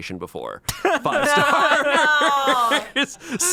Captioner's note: group laughs